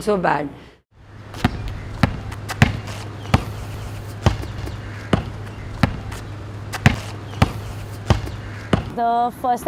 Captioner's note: basket ball bouncing